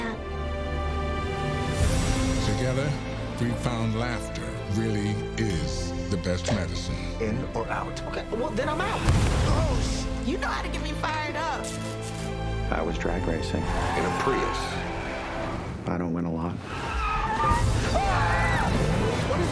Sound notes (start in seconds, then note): 0.3 soulful music; 11.6 electricity sizzling; 16.6 all screaming; 16.7 tires screeching